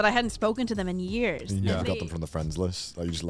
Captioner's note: men laugh